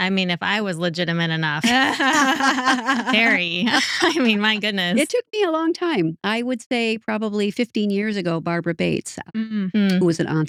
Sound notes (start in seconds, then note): 1.6 laughing